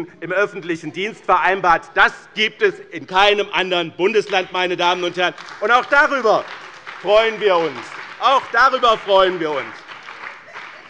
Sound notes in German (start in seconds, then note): 5.8 Beifall bei dem BÜNDNIS 90/DIE GRÜNEN und der CDU